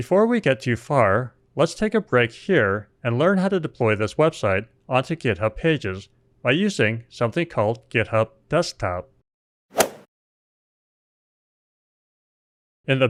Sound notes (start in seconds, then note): 9.7 golf swing sound effect